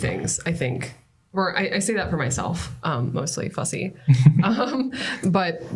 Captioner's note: laughter